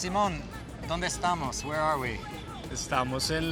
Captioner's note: speaking spanish